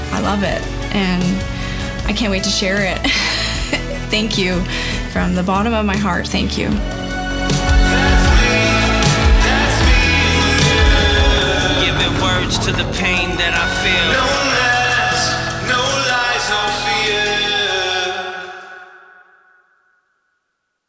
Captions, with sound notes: I love it. And I can't wait to share it. (chuckles) Thank you from the bottom of my heart. Thank you. - That's me, that's me in the mirror - Giving words to the pain that I feel - No mask, no lies, no fear